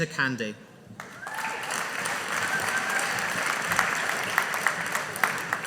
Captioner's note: audience applauding